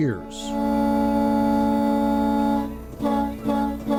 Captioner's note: horns honking